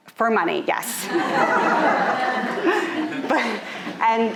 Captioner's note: audience laughing